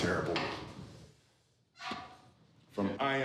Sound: squeaks

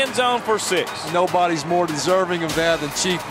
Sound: voiceover

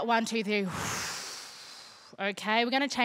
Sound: exhaling

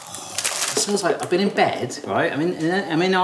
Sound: gasps

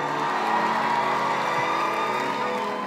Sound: cheering

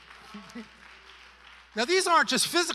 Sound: congregation applauding

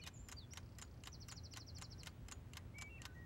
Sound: <i>clock ticking</i>

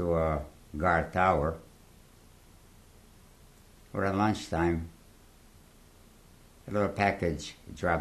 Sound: pauses for 3 seconds

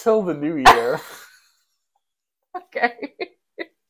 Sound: laugh; laugh

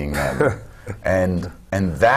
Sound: clears throat

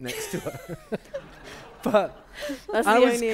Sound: laughter

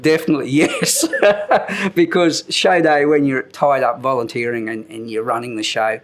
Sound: chuckle

